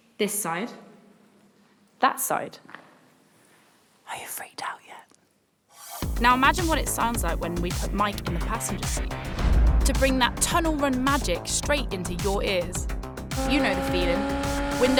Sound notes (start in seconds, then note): 3.8 whispers